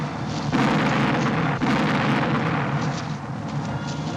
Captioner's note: rapid cannon fire